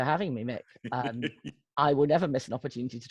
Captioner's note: laughing